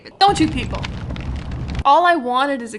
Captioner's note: fire roaring